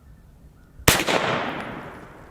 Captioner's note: pistol fires